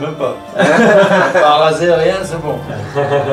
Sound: laughes

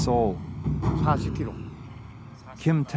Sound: speaking foreign language

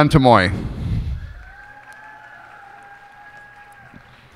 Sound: cheers and applause

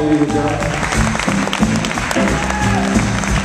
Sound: applause and cheering

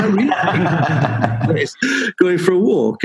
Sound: laughing

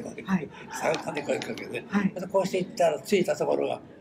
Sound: foreign language

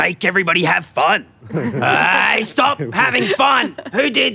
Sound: all laugh

